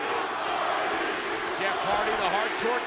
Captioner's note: crowd chanting